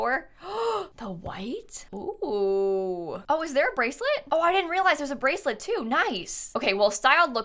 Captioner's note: gasps